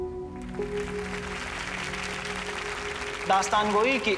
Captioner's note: Applauds